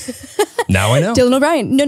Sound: laughing

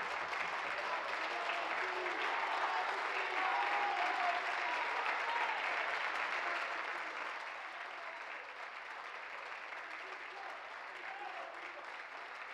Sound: applause

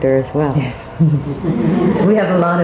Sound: audience laughs

